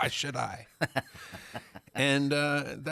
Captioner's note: laughing